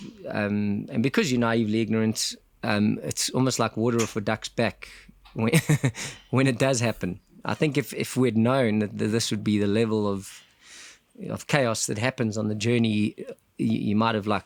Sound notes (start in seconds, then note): 5.3 laugh